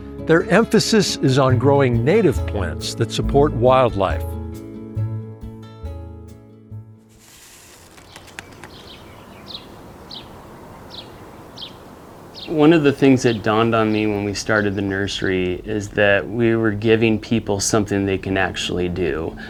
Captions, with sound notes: Their emphasis is on growing native plants that support wildlife. [birds chirping] One of the things that dawned on me when we started the nursery is that we were giving people something they can actually do.